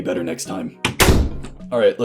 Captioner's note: slam!